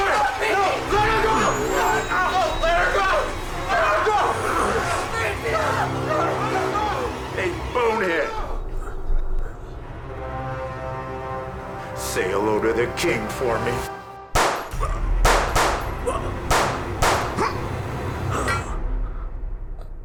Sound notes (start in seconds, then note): 4.0 intense music; 6.5 intense music; 10.2 tense music; 14.3 gunshots popping